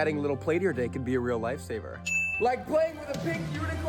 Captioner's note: ding